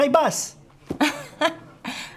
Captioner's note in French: elle rit